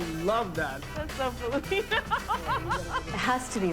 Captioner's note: laughs